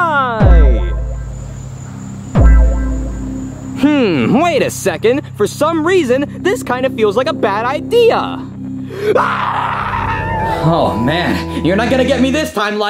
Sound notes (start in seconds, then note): 0.2 uneasy music; 9.0 screams